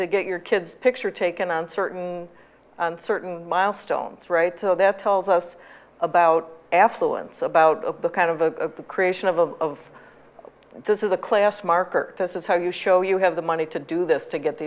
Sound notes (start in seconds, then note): none